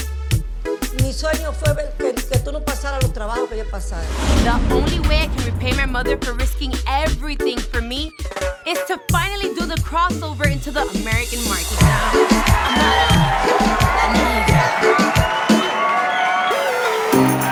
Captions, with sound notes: The only way I can repay my mother for risking everything for me, is to finally do the crossover into the American market. (audience cheering) (Spanish music continues)